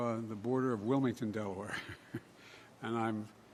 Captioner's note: laughs